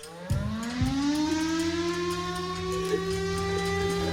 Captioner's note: siren blaring